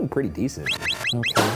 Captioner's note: graphics squeaking